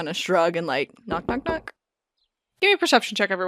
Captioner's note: knock knock knock